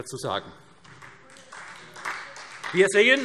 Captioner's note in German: Beifall SPD